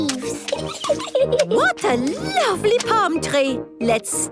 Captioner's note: giggles